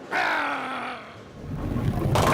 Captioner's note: growls